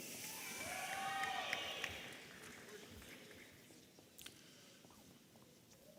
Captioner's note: audience applauding and cheering